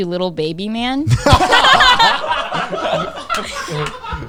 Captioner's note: all laughing